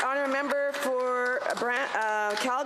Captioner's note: applause